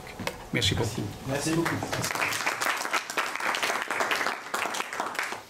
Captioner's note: applause